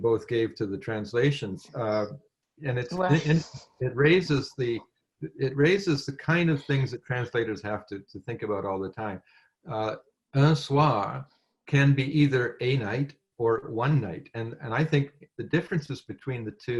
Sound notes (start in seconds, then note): 12.3 french